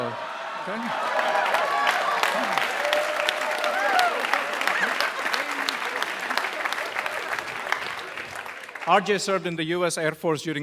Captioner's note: applause